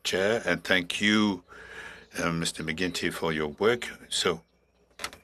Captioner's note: speaking French